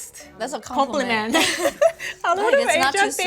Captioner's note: duo giggles